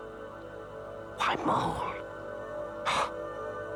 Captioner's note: gasps